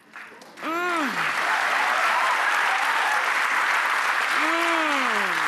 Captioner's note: audience applause